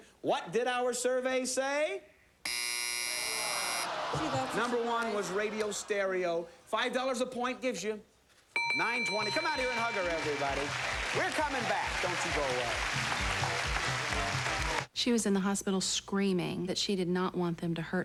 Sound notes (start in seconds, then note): 2.4 buzzer; 3.8 audience moans